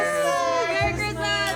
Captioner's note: cheering; all exclaiming